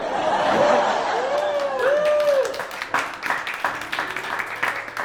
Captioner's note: audience cheering and applauding